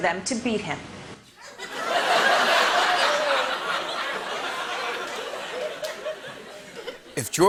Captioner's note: laughter